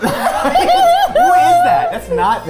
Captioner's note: group laughing